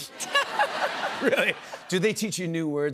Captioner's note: laughter